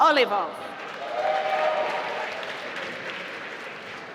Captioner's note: applause